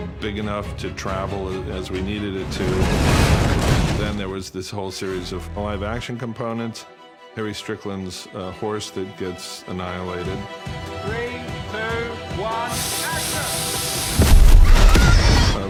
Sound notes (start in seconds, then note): 12.6 air hisses; 14.5 horse whinnies